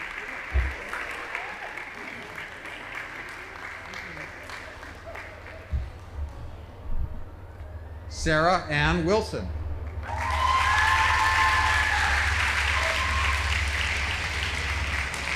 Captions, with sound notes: Sarah Ann Wilson. (audience applauding)